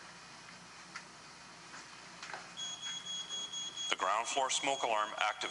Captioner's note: fire alarm beeping